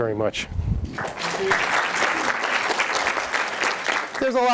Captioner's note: audience applauds